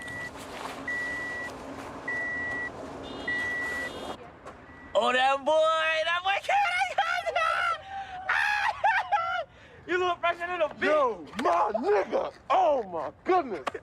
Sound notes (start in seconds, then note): 0.1 beeping; 6.7 laughing, screaming; 6.8 screaming